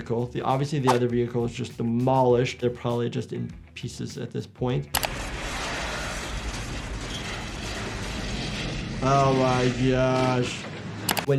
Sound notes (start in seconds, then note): 5.0 metal clanking